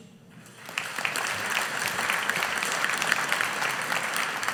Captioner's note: audience applauding